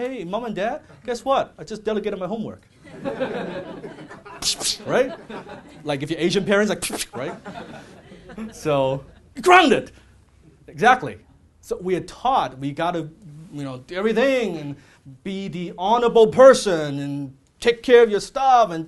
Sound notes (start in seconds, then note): 2.8 audience chuckles; 4.4 sharp whip sound; 6.8 sharp whip sound